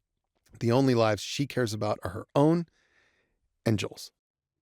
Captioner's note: none